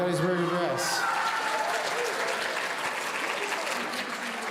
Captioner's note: audience cheering